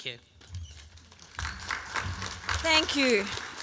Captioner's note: applause